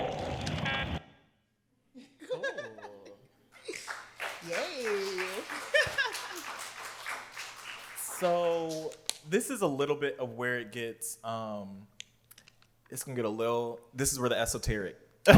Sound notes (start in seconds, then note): 3.5 laughs; 3.6 applause; 5.9 laughs; 15.2 laughs